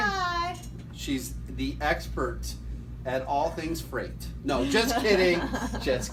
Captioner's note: laughter